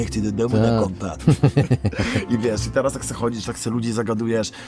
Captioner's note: laughter